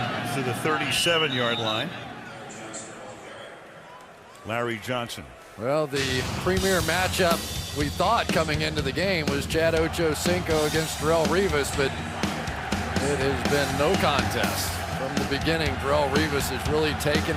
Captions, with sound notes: And to the 37-yard line. [stadium announcements] Larry Johnson. Well, the premier match-up we thought coming into the game was Chad Ochocinco against Darrelle Revis. But it has been no contest. From the beginning, Darrelle Revis has